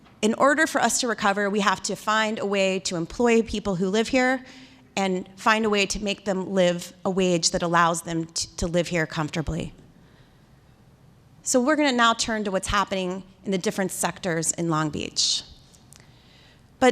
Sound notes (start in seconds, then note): none